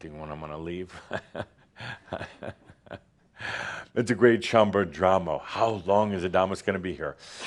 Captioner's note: Adamus chuckles